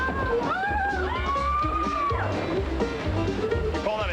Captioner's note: riders scream